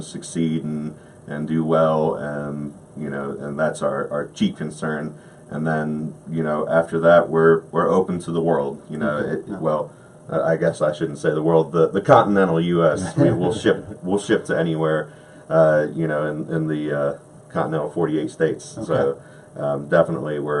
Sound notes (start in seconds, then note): 12.9 laughs